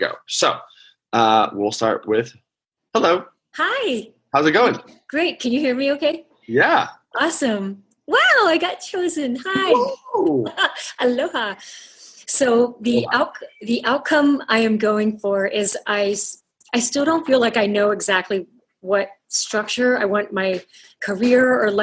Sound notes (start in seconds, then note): 9.5 laughing